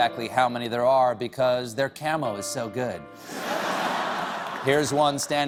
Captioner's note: laughter